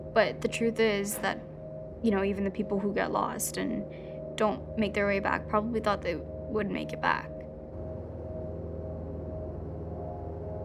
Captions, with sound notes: But the truth is that, - you know, even the people - who get lost and don't make their way back - probably thought they would - make it back. (Airplane hums)